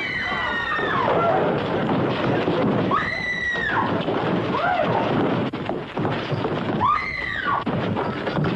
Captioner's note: woman screams